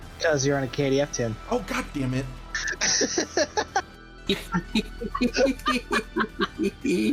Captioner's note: laughter